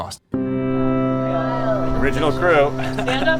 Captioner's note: gentle music; people chattering